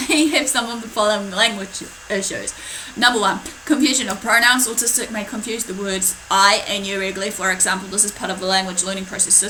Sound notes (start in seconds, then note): 0.0 giggles